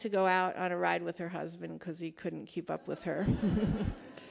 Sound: laughs

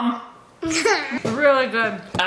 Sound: laughing

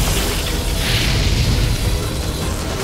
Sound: fire blazes

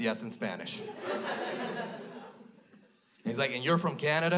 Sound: crowd laughs

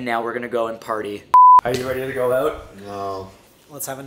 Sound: alarm dings

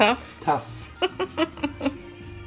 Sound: laughing

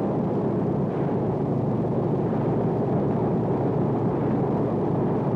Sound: airplane propellers running

